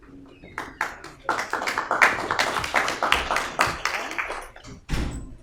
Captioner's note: audience clapping